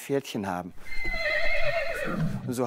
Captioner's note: neighing